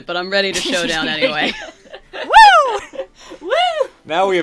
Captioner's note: laughter